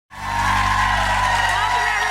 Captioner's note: audience applause